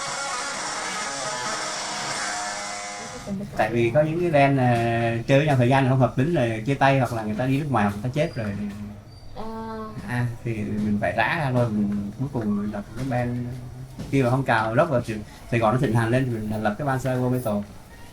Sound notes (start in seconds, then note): 3.8 speaking foreign language